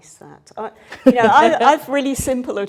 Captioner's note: laughing